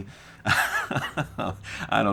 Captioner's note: laugh